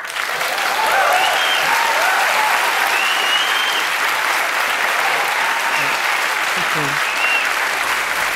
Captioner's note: Applause; 掌聲